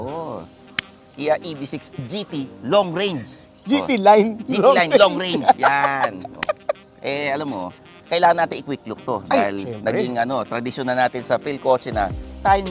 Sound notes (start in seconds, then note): 4.5 laughs